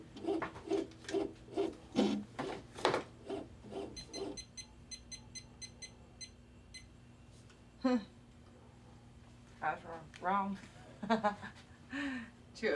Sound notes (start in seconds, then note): 3.8 machine beeping; 11.5 laughs